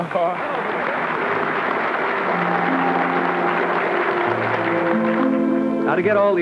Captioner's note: audience clapping